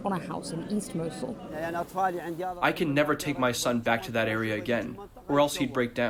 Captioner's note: through translator